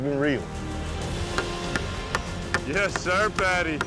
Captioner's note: hammering